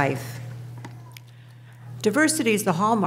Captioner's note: child mumbling in audience